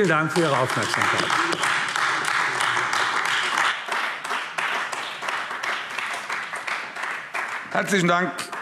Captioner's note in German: Beifall AfD